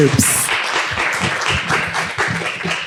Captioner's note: applause